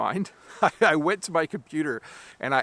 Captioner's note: chuckles